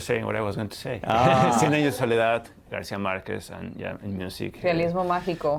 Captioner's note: laughter